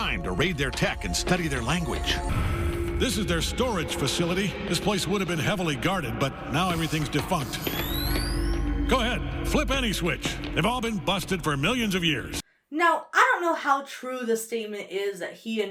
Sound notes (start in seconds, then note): 2.4 ominous music; 6.6 device spins up